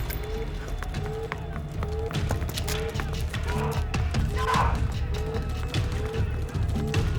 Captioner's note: alarm blaring; soldiers shouting; suspenseful music